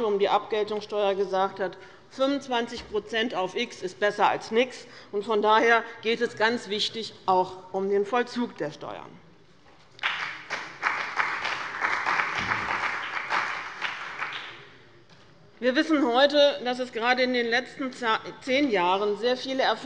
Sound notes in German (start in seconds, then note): 9.9 Beifall bei dem BÜNDNIS 90/DIE GRÜNEN und der CDU